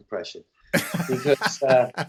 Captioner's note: laughter